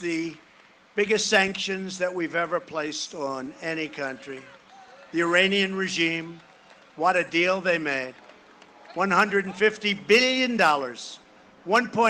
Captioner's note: cheering and applause